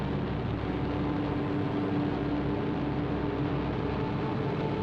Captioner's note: airplane engines rumbling